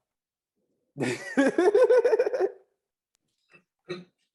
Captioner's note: chuckles